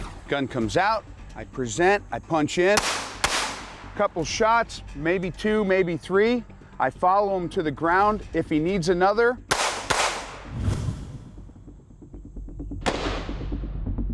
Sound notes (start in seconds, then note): 2.7 gun shooting; 9.5 gun shooting; 11.3 intense music